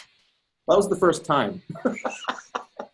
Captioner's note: chuckling